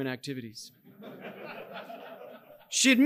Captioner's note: audience laughing